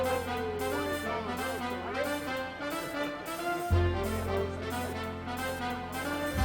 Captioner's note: soft chatter